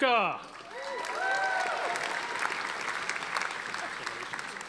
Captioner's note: audience applauding